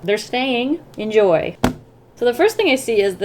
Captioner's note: thump